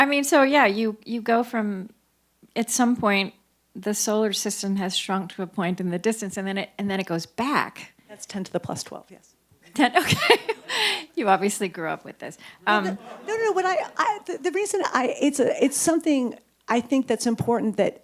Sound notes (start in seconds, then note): 9.9 chuckles; 12.6 audience chuckles